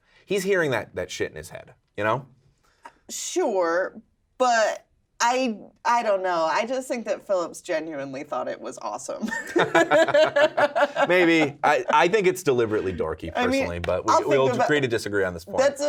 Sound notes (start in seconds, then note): 9.3 laughing